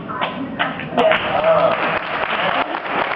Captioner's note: applauds